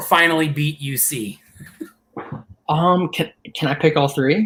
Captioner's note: laughter